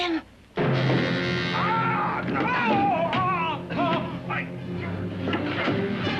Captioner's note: suspenseful music; Kurt screams; suspenseful music